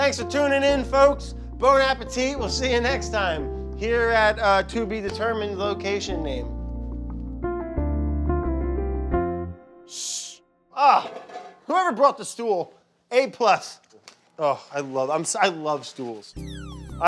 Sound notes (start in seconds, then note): 1.7 speaking in foreign language